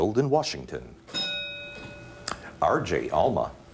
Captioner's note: bell dings